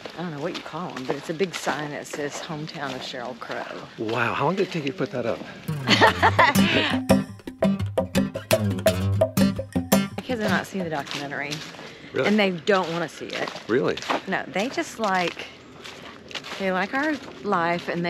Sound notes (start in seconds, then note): 5.7 laughing amusingly; 7.1 easy-going oscillating music returns